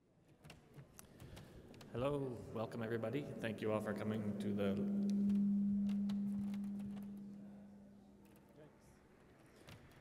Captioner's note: microphone feedback